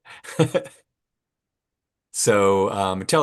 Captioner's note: laughs